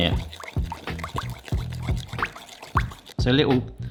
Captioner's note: sauce sloshing